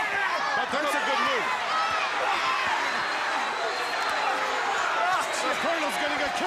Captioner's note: crowd cheering